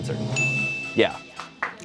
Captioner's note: bell dings